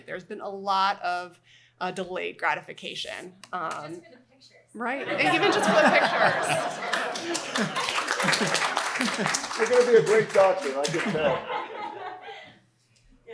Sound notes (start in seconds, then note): 6.2 applause